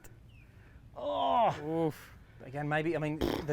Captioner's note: groaning